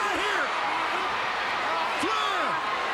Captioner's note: crowd cheering